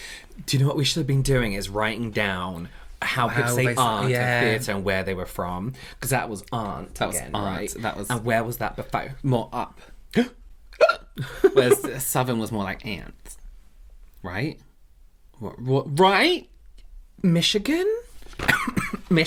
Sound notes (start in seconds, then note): 10.8 hiccup